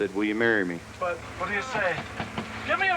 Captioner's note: knocking on door